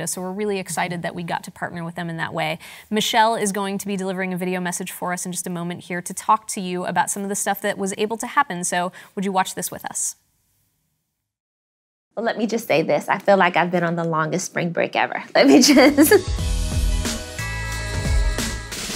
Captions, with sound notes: So we're really excited that we got to partner with them in that way. Michelle is going to be delivering a video message for us in just a moment here to talk to you about some of the stuff that was able to happen. So would you watch this with us? - Well, let me just say this. I feel like I've been on the longest spring break ever. Let me just (laughs)- (R&B music)